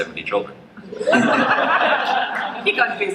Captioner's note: laughter